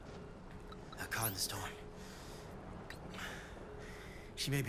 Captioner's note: breathing heavily